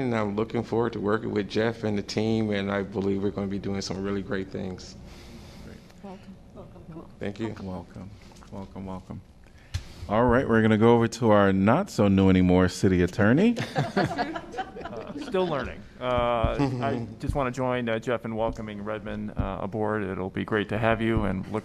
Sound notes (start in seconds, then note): 13.5 laughter